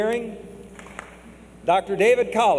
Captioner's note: clap